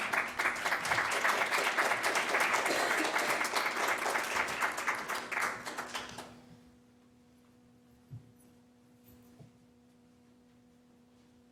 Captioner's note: applause